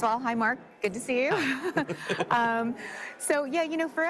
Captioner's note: both laugh